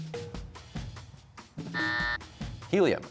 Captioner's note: buzzer